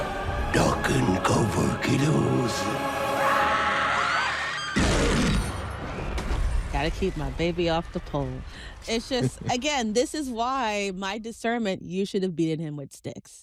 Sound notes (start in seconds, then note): 2.8 pennywise roars; 3.3 children scream